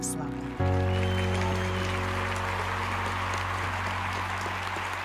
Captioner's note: crowd applauding